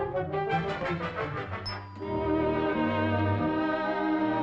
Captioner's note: machine Dinging